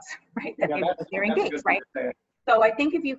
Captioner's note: group chattering